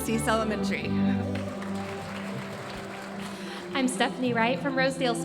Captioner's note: audience applauding